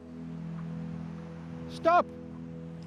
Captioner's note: distant ocean waves